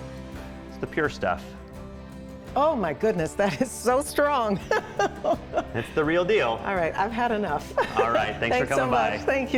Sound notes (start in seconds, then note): 4.6 laughs